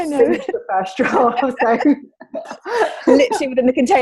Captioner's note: both laugh